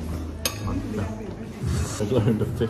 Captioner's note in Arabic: الكورية